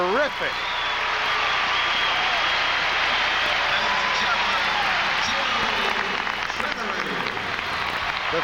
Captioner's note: cheers and applause